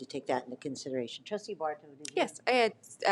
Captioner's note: talks quietly